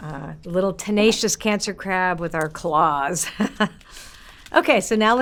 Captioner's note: laughs